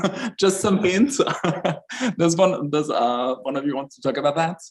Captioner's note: laughs